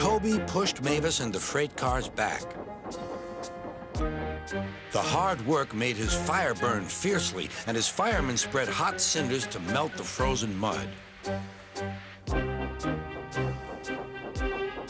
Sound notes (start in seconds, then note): 11.9 hissing